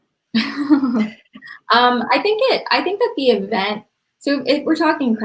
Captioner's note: laughs